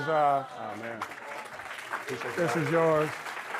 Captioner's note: audience clapping